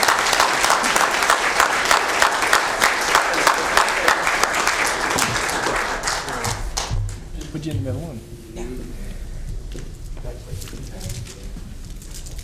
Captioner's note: applause